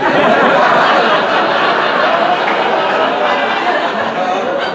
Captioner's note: audience laughing